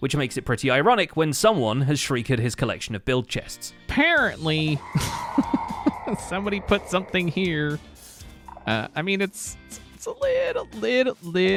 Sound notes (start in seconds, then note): 4.6 Shrieker shrieks; 4.8 chuckles